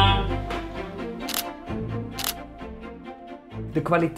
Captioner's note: camera clicks